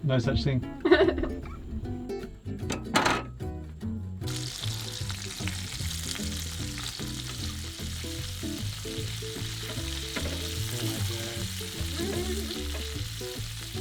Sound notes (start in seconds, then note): 0.8 laughing; 4.8 sizzling